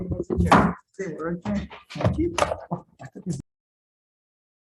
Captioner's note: chair squeaking